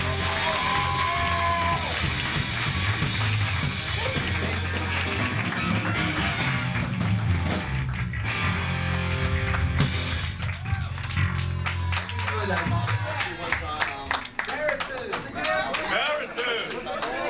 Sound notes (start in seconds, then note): 0.1 cheering and applause; 12.4 crowd cheering and talking